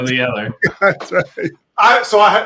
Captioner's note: laughs